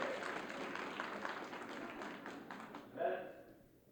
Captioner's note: audience clapping and cheering